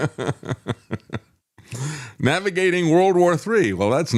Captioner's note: laughter